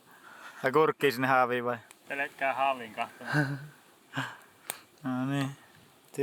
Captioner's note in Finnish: naurua